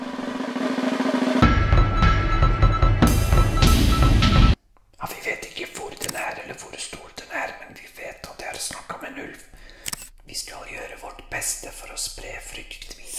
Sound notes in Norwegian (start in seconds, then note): 0.0 dramatisk musikk; 5.0 hvisker